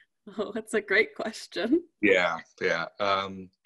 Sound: laughs

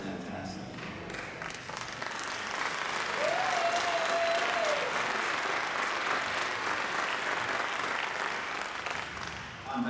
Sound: applause

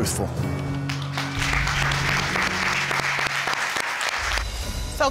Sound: audience applauds

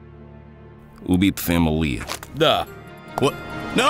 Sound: non-english speech

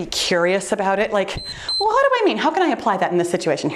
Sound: timer beeps

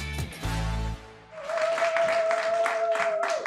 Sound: applause, cheering

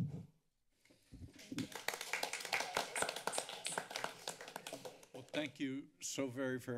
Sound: clapping

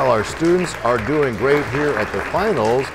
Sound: applause

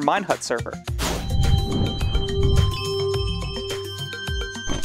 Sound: electronic chimes; techno music

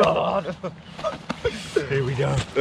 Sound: laughing

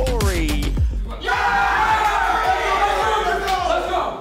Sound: all cheer

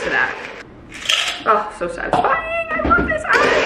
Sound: ice clinks

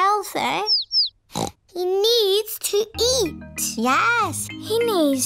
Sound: snorts

